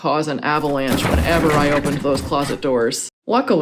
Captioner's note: crashing noise